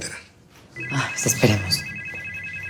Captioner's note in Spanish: Suena el celular